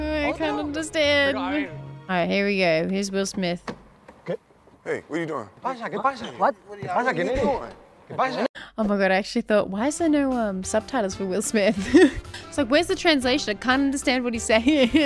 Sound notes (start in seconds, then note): 11.7 laughs